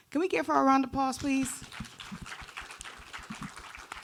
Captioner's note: audience applauding